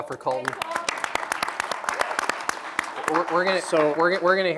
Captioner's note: applause